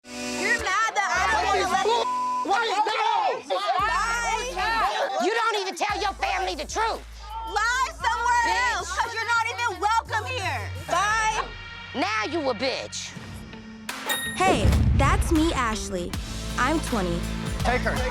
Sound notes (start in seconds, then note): 2.0 beep; 3.2 people arguing